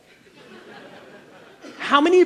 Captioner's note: audience laughs